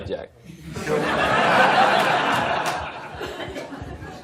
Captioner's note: laughter